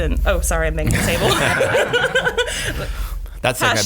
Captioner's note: laughing